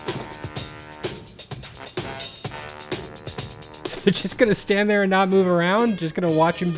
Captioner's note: laughs